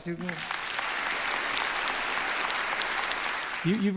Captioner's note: applause